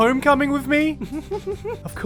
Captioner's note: giggle